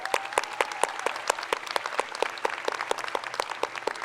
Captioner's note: crowd applauds